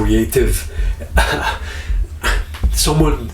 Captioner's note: laughing